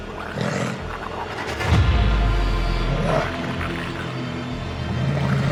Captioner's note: creature growling